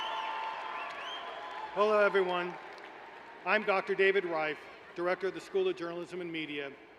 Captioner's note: cheering